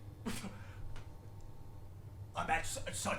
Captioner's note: chuckles